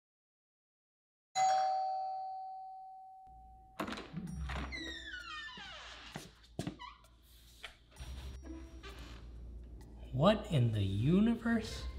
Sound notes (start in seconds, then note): 1.3 doorbell; 4.0 playful music; 4.5 door handle click; 5.9 foot steps; 8.0 door squeaks